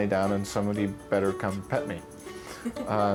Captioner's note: person laughs